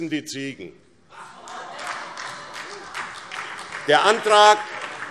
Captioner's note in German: Beifall SPD